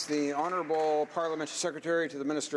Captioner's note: some Applause